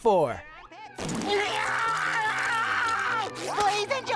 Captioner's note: screaming